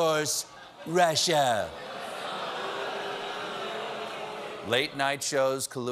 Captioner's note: audience reacts